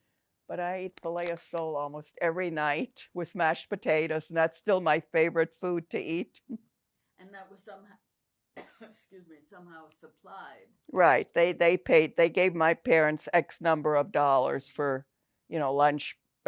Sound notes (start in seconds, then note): 8.6 coughing